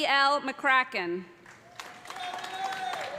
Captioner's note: cheers and applause